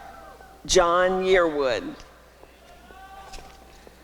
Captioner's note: applause and cheering